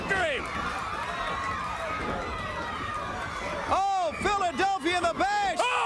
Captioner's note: crowd chatter